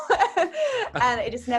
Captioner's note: laughing